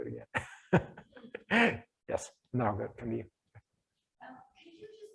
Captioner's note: laughs